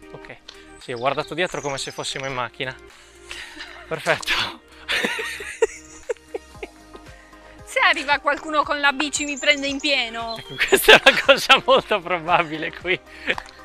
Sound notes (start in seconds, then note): 4.8 laughing